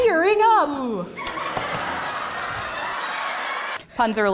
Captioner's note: people laugh